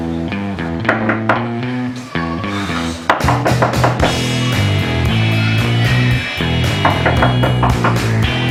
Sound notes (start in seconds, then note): 0.9 knocking door; 2.9 knocking door again